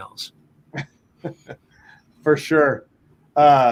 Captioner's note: laughs